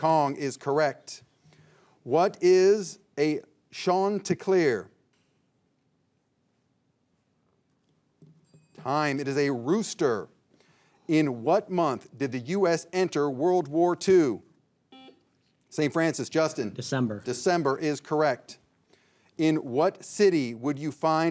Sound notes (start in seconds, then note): 8.4 bell dings; 14.9 signal beeps